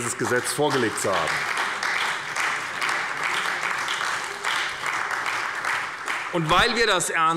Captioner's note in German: Beifall bei der SPD